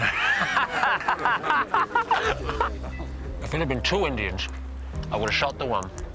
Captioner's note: laughing